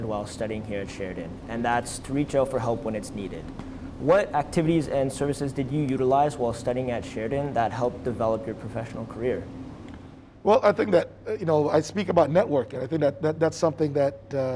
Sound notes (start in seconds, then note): none